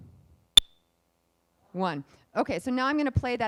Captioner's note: beep